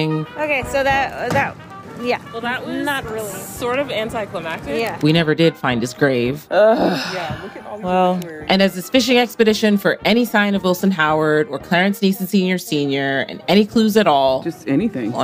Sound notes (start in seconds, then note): 6.5 sighs